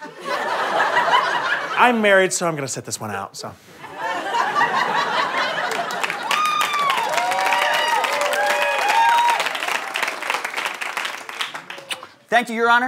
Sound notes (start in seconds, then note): 0.0 audience laughter; 3.8 audience laughter; 5.0 audience applause; 11.8 kiss